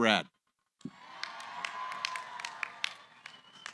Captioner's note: cheering